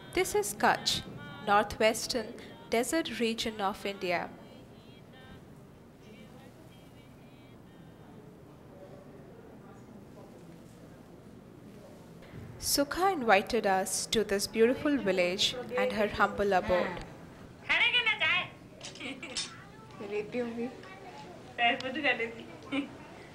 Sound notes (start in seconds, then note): 16.9 foreign Language; 18.2 family Talking in Foreign Language